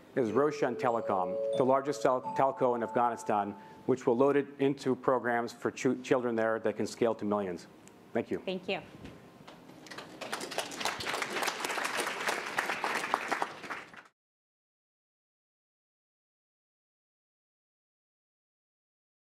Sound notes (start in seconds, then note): 9.8 applause